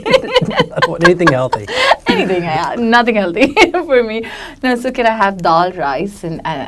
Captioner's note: laughs